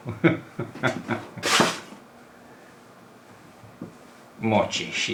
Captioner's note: laughs